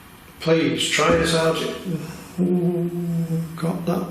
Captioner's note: thud